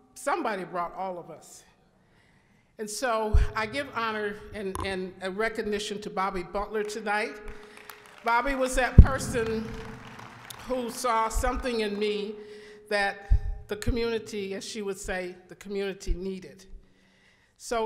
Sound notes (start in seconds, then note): 7.4 applause